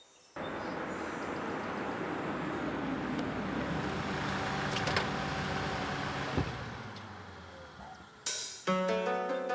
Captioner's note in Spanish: Ruido del coche llegando